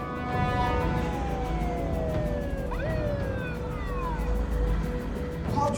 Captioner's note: police siren wailing